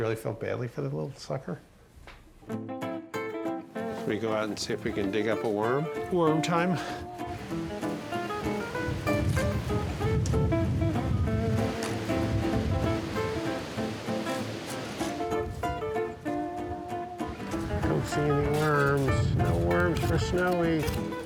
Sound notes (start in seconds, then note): 7.2 leaves rustling